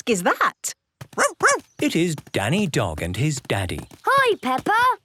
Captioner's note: barking